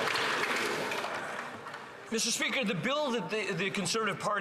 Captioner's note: some Applause